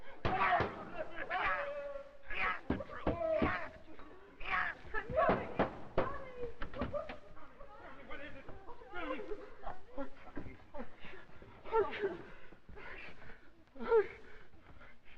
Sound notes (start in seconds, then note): 0.2 banging on door; 3.0 voices; 5.5 sounds of hysteria; 10.0 Dover, whimpering